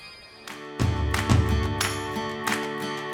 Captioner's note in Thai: ปรบมือ